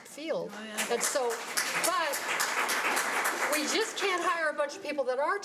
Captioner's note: audience applause